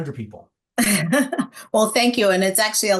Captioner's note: laughing